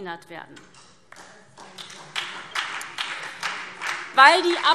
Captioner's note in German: Beifall SPD